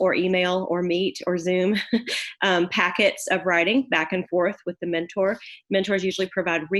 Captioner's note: laugh